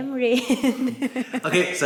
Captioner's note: laughs